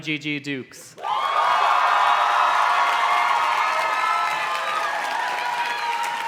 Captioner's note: audience cheers and claps